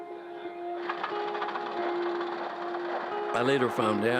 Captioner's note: engine puttering